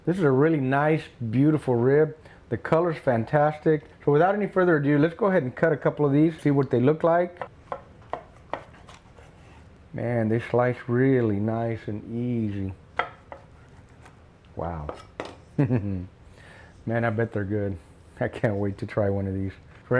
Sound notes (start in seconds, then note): 15.5 chuckles